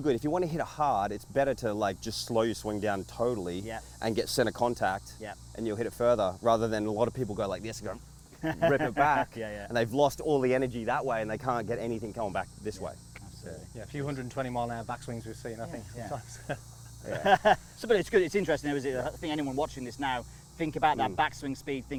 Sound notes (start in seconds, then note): 8.3 laughing